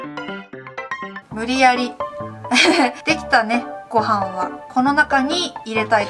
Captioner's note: laughs